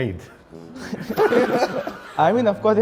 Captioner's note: students laugh